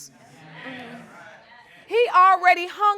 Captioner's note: audience murmuring in agreement